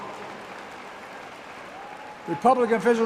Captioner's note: applause